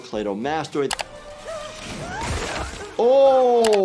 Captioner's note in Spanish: persona gimiendo